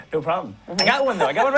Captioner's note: bell rings